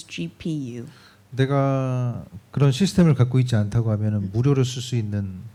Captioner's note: speaking korean